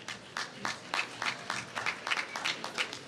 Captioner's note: applause